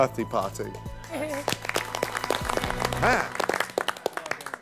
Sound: applause

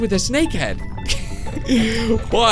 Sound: laughs

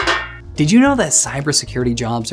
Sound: can clanging

